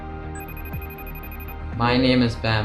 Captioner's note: phone rings